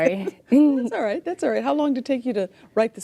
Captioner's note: laughs